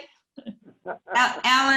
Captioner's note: laughs